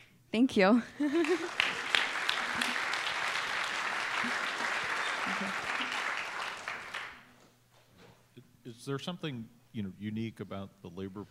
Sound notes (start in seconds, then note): 0.9 laughter; 1.1 applause